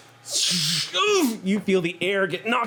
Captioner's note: whooshes, grunts